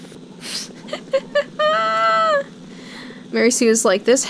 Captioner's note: chuckling